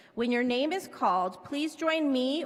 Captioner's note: none